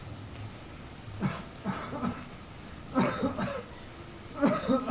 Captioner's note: coughing